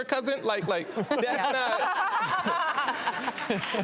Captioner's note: laughter